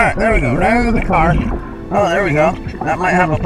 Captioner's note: oxygen bubbling in water